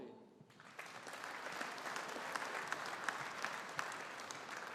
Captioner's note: audience applauding